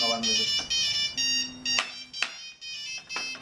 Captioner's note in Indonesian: ringing phone